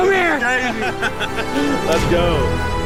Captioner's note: laughing